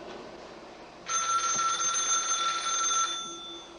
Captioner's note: ringing